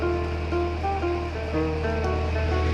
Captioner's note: water splashing